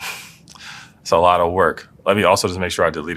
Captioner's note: laugh